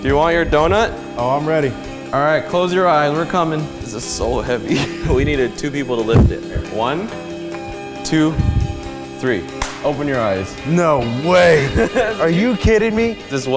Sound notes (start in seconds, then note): 9.6 claps